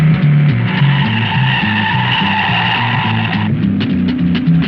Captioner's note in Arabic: صرير الإطارات